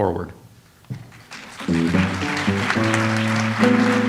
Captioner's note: audience applauds; light jazz music